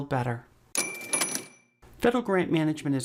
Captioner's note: cash register dings